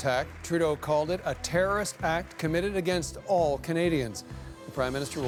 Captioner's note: applause